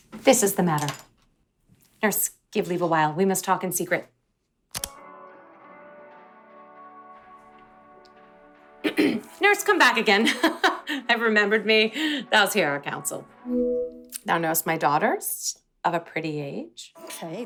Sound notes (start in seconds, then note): 8.8 nurse clears throat